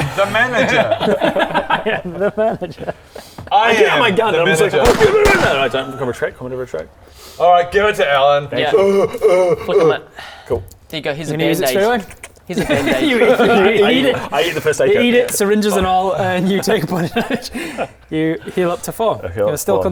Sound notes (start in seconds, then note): 4.8 bang bang